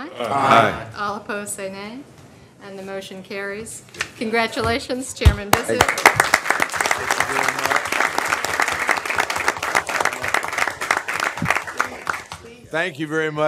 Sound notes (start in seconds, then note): 8.5 chorus of ayes